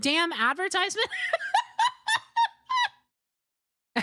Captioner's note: laughter